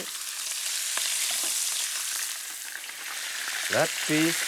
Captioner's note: sizzling